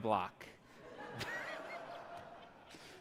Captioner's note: audience laughs